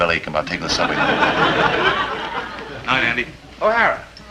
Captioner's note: audience tittering